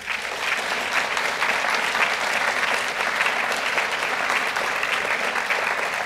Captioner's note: applause